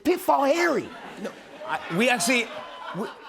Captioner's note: laughter